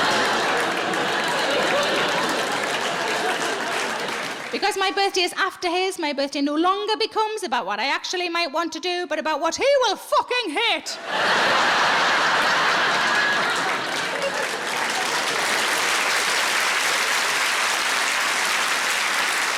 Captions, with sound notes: (audience applauding) Because my birthday is after his, my birthday no longer becomes about what I actually might want to do, but about what he will fucking hate. (audience laughing) (audience applauding)